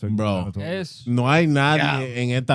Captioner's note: speaking In Foreign Language